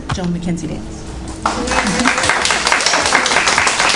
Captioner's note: applause